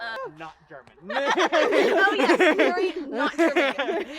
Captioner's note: laughs